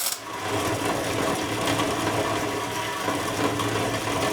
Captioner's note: metal grinding; metal sizzling